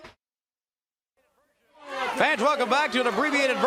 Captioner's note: crowd cheering